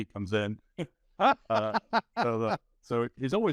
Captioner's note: laughing